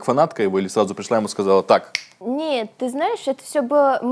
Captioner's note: snap fingers